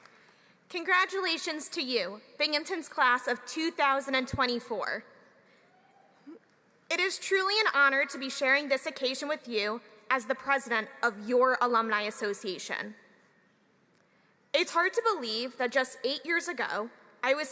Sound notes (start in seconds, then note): 0.0 applause